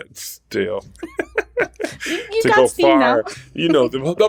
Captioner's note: laughter